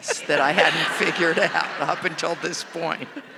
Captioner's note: audience laughing